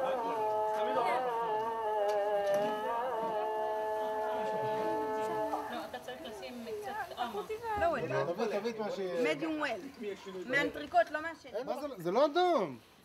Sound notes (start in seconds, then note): 2.4 family speak foreign language